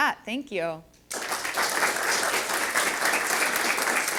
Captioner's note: audience applauding